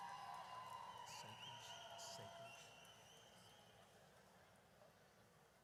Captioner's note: audience cheers; announcer faintly speaking